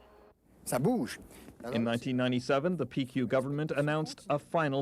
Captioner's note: man speaking French